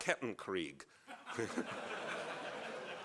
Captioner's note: laughs